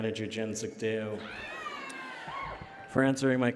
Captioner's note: cheering and Applause